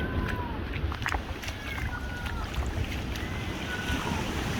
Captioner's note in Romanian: Aplauze